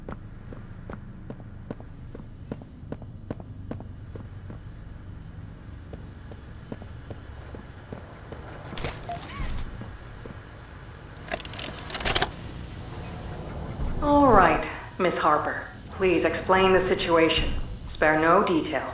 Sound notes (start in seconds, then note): 8.6 door creaking; 11.2 door creaking